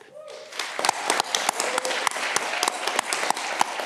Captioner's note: audience clapping